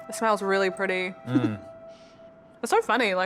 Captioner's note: giggles